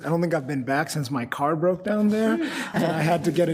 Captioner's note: group laughs